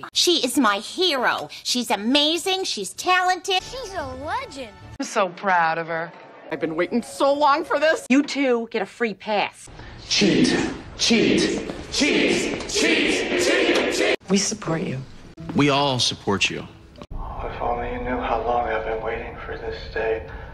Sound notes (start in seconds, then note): 11.0 chanting